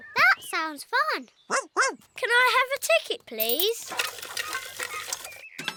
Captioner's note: barks